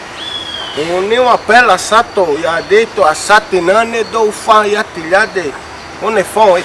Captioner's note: speaks in his idiom - yaathe